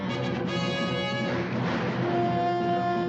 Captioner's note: gunshots